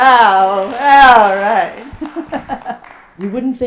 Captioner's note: hearty applause from audience. : "All right!"